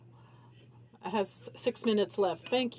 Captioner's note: speaking French